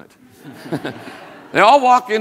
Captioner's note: all laugh